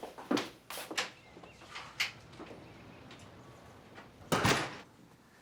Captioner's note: birds chirping